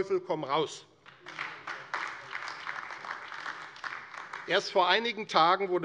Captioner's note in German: Beifall AfD